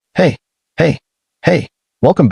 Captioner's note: dramatic pause